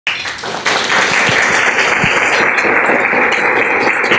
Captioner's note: applause